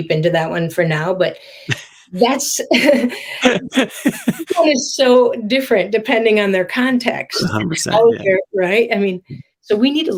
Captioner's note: laughs